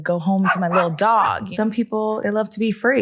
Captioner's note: dog barking